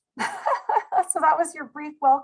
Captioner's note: laughing